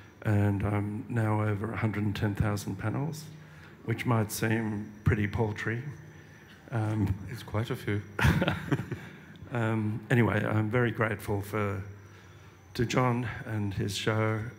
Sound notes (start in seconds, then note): 8.2 laughter